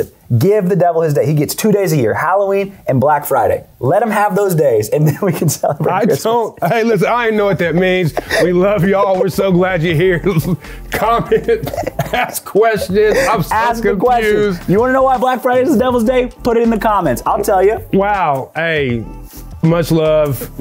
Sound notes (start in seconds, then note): 5.8 laughs